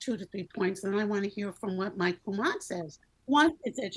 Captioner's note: speaks in Creole